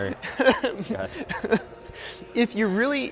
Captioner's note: laughs